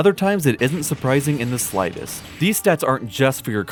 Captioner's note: spike sound effects